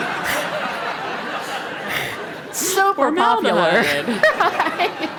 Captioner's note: laugh; laugh